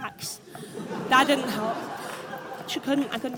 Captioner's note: audience laughs